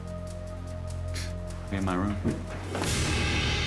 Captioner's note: scoffing